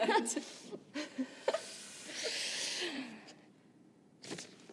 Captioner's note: Kimberly and Bethany chuckle